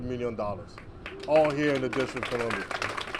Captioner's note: applause